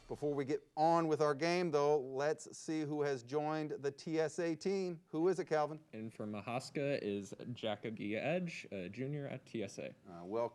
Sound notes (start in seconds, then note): none